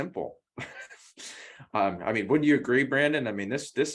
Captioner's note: laugh